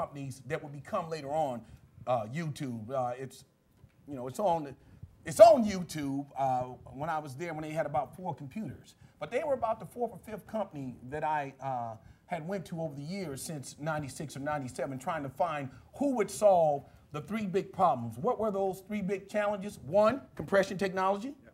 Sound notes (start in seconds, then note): none